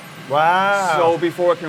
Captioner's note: twinkling